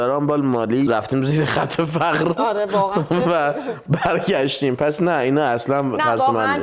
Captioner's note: laughs